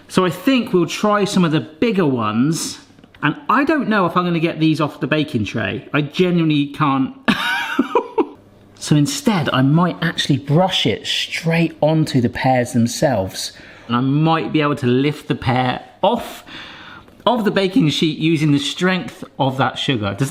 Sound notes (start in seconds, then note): 7.4 laughs